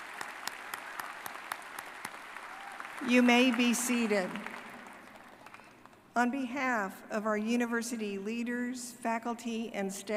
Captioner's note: applause